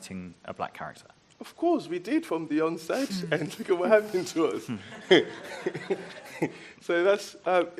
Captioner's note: laughs